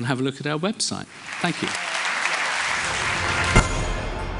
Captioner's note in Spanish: Aplausos